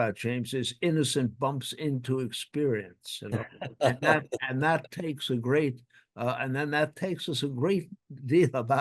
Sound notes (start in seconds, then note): 3.2 John laughing